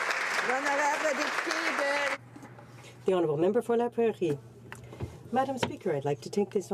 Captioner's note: some Applause